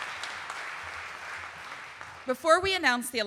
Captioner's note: audience applauding